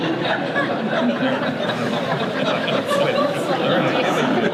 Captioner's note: audience laughter